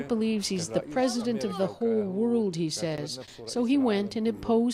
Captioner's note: speaking alternate language